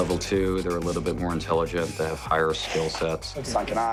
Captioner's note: hissing, snarling